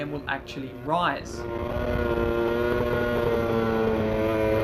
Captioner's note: engine roaring